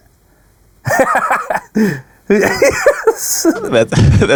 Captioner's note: laughing